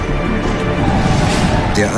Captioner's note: deep rumble